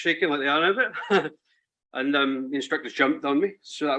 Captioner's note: chuckles